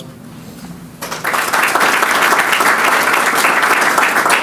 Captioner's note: audience clapping